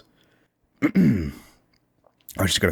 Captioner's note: ahem